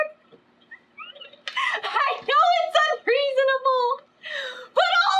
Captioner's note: laughs